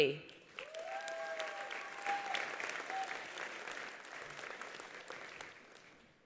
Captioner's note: attendees applauding; attendees cheering